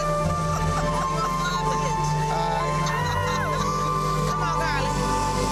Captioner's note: woman chuckling